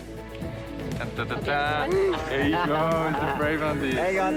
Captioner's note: laughs